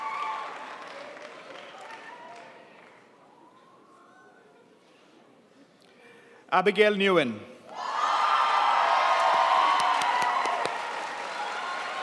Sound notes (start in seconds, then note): 8.6 crowd applauds